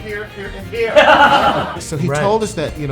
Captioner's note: laughing